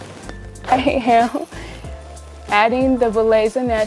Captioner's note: laughing